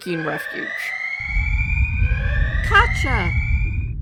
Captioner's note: tremor alert